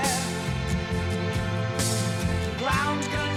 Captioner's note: none